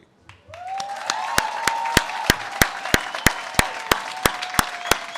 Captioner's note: audience cheers and claps